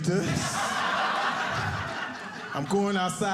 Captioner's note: audience laughing